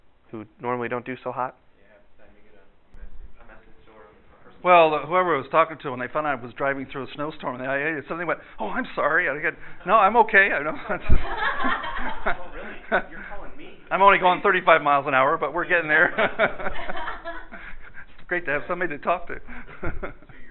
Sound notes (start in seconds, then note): 10.6 laughter